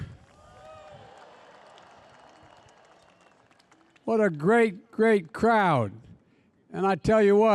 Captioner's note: applause